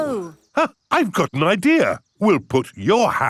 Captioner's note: gasps